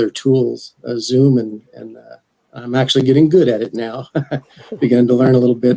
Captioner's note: laughs